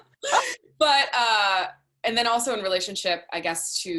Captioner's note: laughs